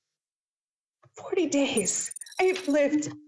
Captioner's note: choked up